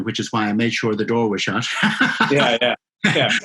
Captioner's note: laughs